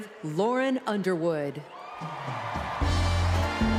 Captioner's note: applause